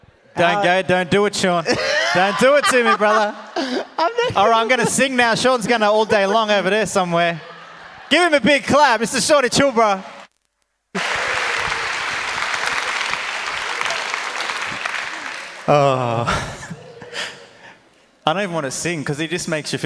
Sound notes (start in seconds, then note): 3.1 laughs; 7.8 audience laughs; 10.9 audience applauds